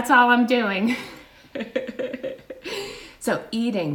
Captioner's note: laughs